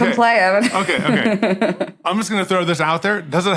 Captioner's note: chuckles